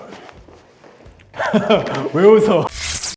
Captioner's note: laugh